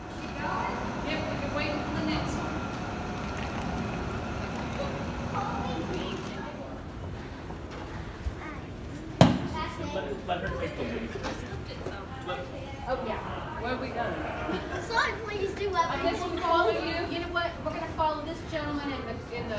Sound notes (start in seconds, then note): 5.1 chattering; 10.6 family chattering